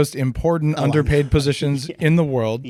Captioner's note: laughs